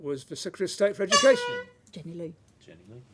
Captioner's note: honk